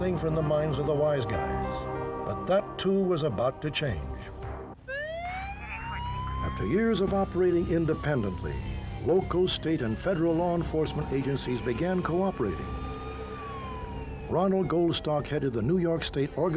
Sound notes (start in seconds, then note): 4.3 sirens blaring